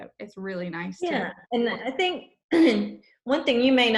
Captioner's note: coughs